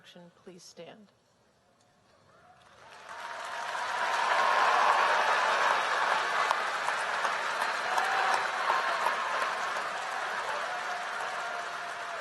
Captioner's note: applause